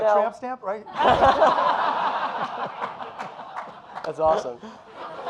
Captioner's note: audience laughing